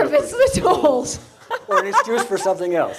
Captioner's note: laughs